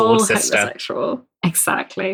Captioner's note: laughs